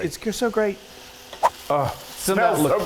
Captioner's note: screen whooshes